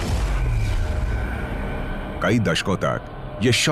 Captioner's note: explosion blasts